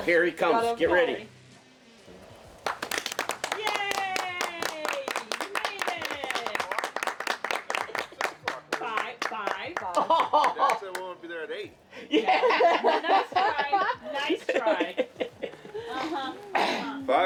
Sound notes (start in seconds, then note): 2.6 all clapping; 10.0 laughing; 11.9 all laughing